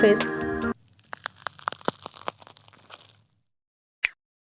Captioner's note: the sound of wood burning in the kitchen